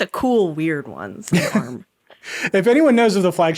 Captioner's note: laughing